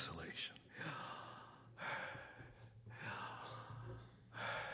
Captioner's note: inhales, exhales